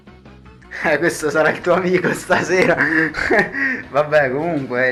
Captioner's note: retarded laughter